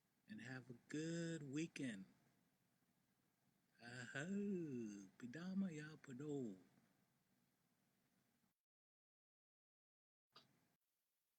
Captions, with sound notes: And have a good weekend. (SPEAKS NATIVE LANGUAGE)